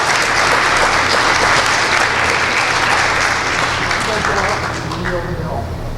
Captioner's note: applause